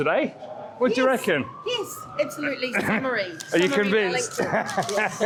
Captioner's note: laughter